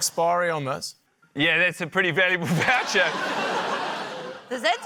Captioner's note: laughter